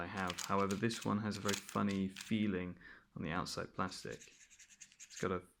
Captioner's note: scratches plastic